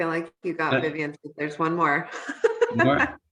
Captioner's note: laughing